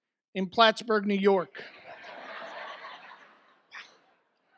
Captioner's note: audience laughs